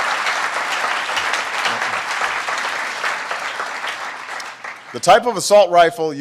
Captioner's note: applause